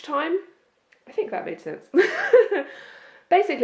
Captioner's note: laughs